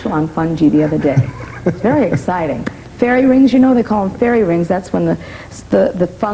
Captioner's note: laughter